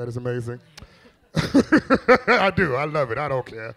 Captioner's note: laughs